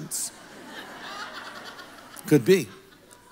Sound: congregation laughs

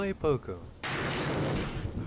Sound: thunder crashes

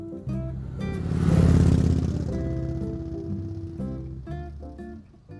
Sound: motorcycle engine revs

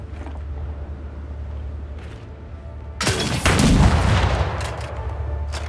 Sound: gun fires

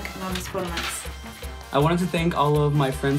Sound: speaks in foreign language

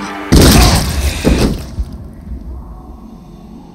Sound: gunshot

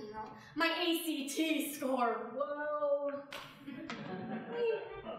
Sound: audience laughing

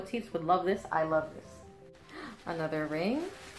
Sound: soft gasp

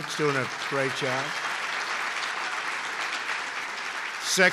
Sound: applause

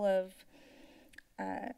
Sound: inhales

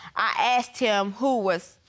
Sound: none

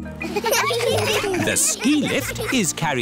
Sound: laughter

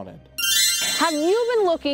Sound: magical tinkling

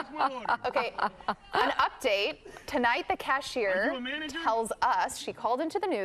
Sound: laughter

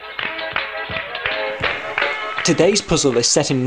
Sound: hand claps and stomping sounds

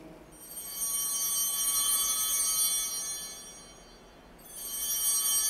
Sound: bell ringing

